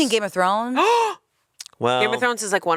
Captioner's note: gasps